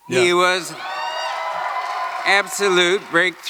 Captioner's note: cheering